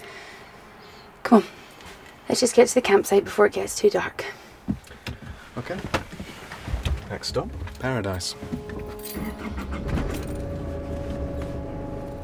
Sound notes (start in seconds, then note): 9.3 car engine starts